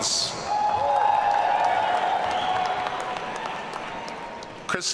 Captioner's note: audience cheering